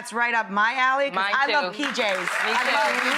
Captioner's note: audience applauds